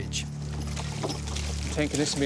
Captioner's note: water splashing